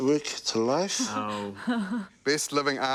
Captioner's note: chuckles